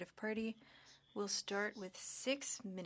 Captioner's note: speaking French